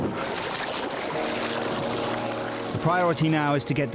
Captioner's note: water splashing